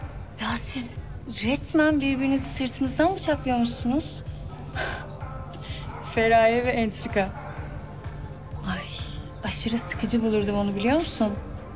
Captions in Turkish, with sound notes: Ya siz resmen... ...birbirinizi sırtınızdan bıçaklıyormuşsunuz. [Gülüyor] Feraye ve entrika. Ay aşırı sıkıcı bulurdum onu, biliyor musun?